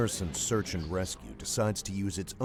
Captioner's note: voiceover